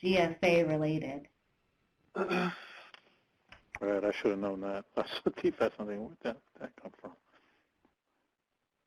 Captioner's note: laughs